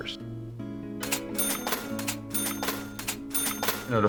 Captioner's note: soft Music Plays; cash Register Ringing